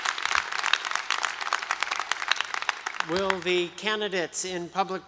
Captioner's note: applause